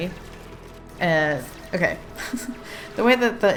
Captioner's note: laughs